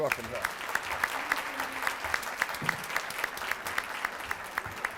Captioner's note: applause